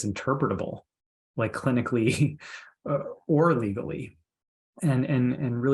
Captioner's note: chuckles